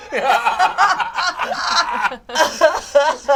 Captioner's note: all laugh